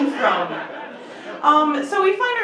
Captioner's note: laughter